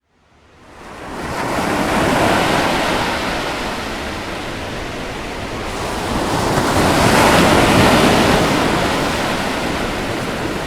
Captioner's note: ocean Relaxing Sounds